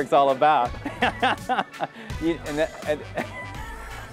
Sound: laughs

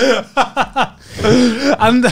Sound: laughing

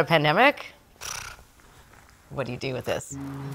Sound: blowing raspberries

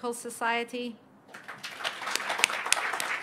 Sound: applause

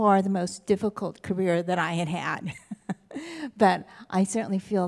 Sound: laughs

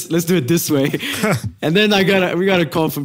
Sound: laugh

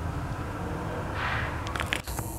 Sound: loud machinery

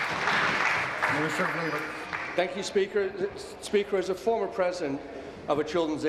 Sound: applause

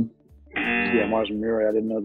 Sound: buzzer

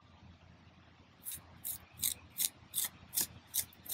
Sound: trowel scraping

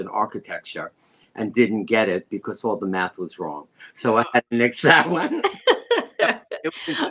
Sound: laughter

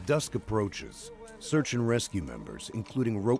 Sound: voiceover

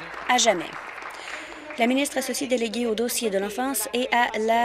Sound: applause

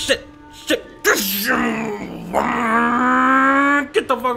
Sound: imitating the sound of a sport car accelerating

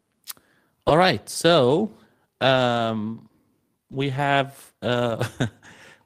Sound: laughs

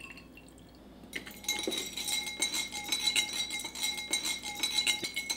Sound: glass clinking

